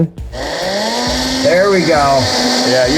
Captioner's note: blender whirring